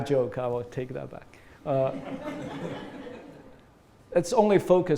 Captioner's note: laughter